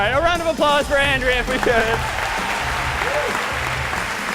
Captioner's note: applause